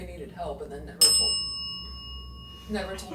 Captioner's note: bell dings